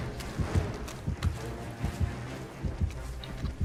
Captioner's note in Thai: none